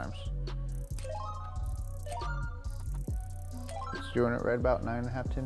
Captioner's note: ratchet teeth clicking